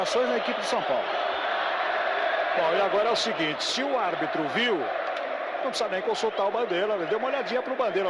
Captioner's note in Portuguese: aplausos